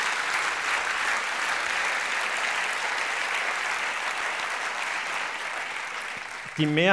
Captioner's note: applause